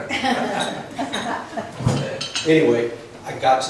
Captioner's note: laughs